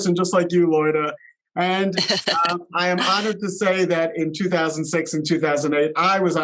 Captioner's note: laughs